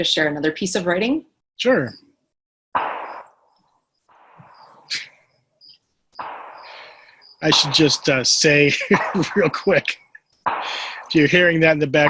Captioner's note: laughs